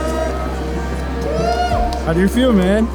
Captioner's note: crowd cheering